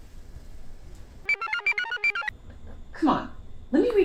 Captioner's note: computer chirps